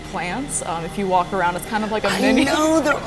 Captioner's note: laughs